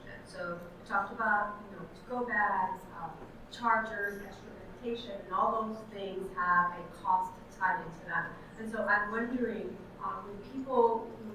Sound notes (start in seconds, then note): none